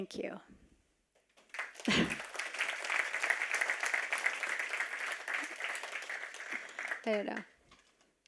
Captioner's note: applause